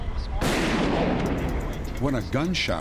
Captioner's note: gunshot